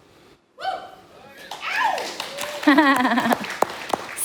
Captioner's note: applause and Cheers